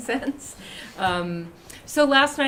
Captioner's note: laughter